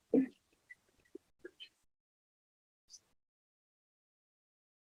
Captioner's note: silence